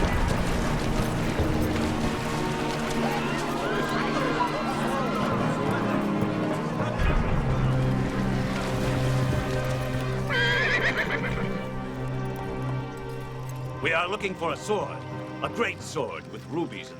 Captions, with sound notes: (murmuring) (horse whinnies) - We are looking for a sword. A great sword with rubies in the hilt.